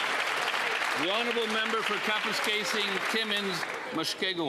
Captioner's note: applause